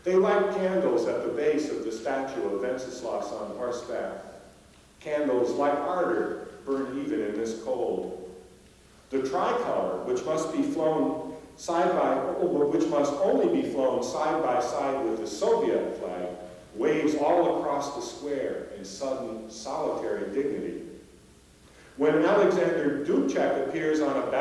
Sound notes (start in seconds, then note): none